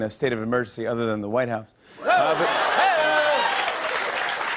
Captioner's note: laughter and applause